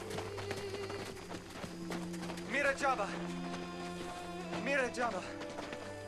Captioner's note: speaking waodani